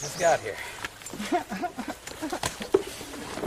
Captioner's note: chuckles